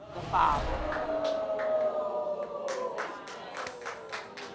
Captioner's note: crowd whooping